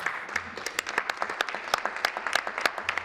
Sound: applause

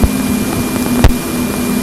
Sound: pop

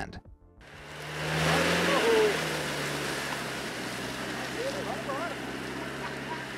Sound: engine revving hardly

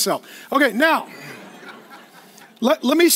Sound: laughing

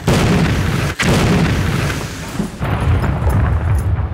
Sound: explosion

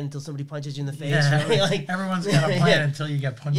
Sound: laughs

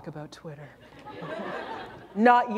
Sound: laughter

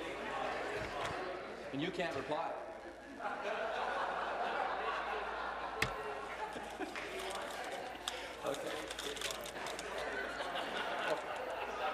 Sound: laughter

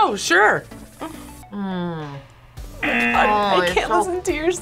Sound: buzzer

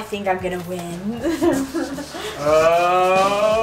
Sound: giggling

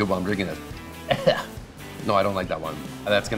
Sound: coughing

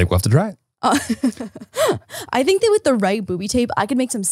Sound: laughs

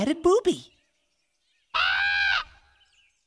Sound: squawk of bird call

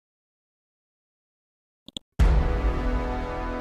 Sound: mouse clicks; dramatic chord

